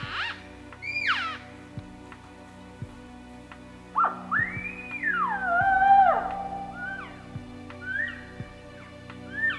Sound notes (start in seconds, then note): 4.9 elk lure sounding